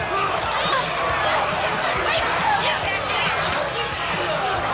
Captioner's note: people yelling